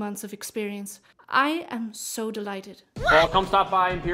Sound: excited yelling

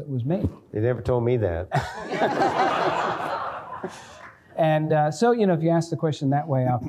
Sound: laughter

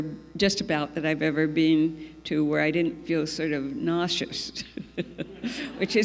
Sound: laughs

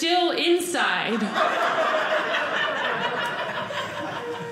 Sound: audience laughing

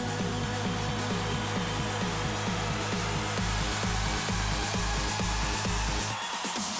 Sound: cheering

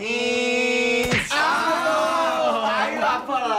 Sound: slap!

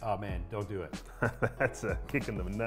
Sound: laughs

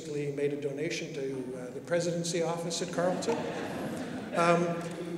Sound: laughter

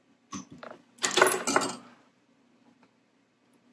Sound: tools clatter

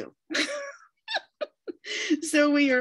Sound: laughter

